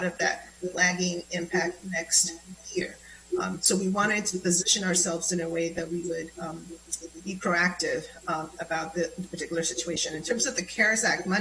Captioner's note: spanish